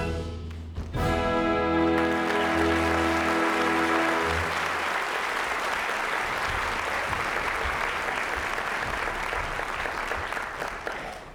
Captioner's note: applause